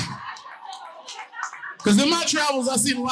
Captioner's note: audience laughing